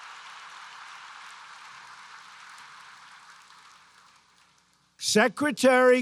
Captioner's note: applause